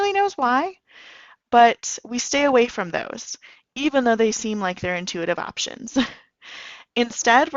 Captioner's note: chuckle